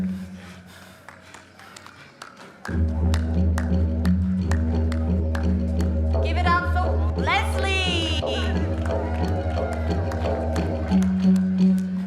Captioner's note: applause